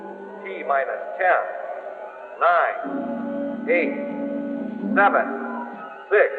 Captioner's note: man on PA